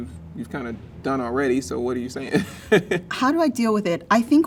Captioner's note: laughs